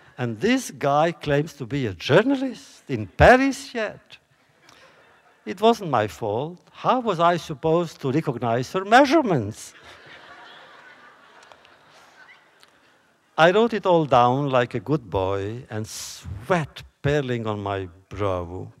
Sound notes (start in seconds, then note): 9.7 laughter